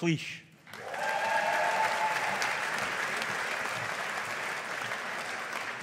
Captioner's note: audience applauding